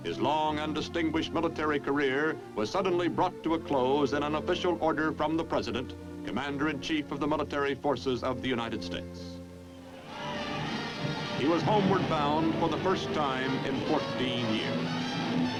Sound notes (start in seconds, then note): 10.0 cheers